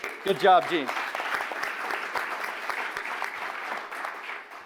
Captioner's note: audience applauding